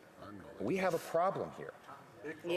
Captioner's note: speaking French